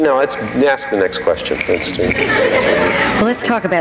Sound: audience laughing

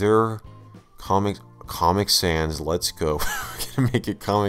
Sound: wHeEzE

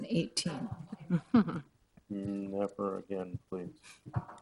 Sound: lady chuckling

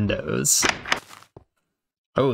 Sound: door_open.ogg

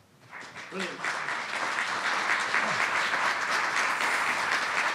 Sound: audience clapping loudly

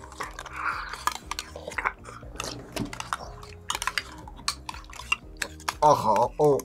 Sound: both slurping

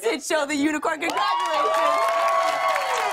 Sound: cheers and applause

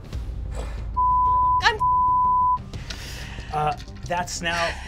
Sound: beep

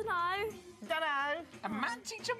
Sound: mocking voice

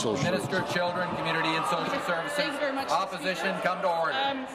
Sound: applause

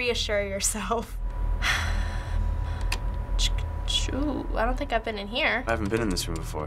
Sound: sighs

